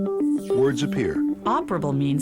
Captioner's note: voiceover